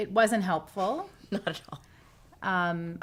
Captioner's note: chuckling